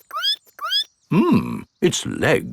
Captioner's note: squeaks